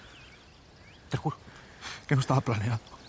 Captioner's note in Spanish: balbuceando